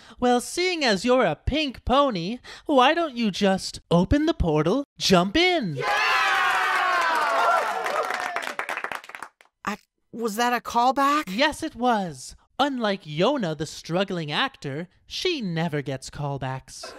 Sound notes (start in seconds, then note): 5.8 crowd cheers